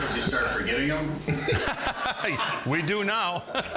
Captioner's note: laughing